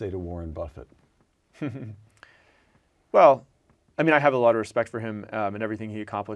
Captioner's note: laugh